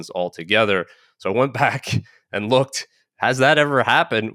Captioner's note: laughing